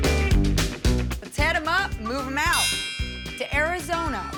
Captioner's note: dings triangle bell